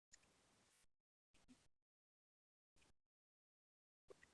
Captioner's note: silence